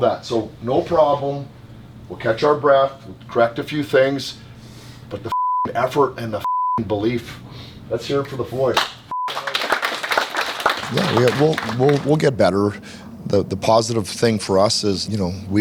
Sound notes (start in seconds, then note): 9.1 team applauds